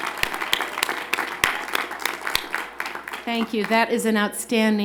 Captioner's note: applause